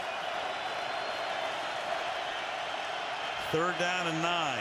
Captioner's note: cheers